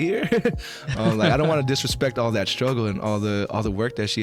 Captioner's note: laughing